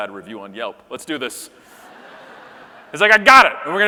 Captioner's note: audience laughing